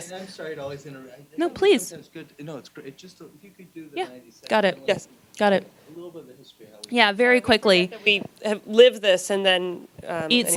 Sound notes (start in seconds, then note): 3.7 gentle speaking